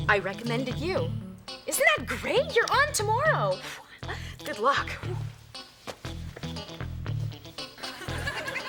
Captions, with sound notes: I recommended you. Isn't that great? You're on tomorrow. Good luck. (sighs) (playful music)